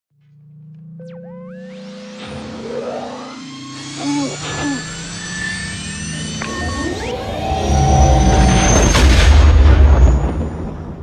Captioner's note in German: Milliennium Falcon Triebwerksgeräusche